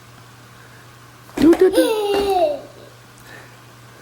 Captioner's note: giggling